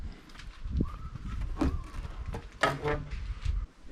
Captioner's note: whistling